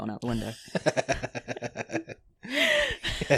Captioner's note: laughs